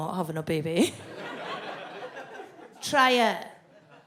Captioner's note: audience laughs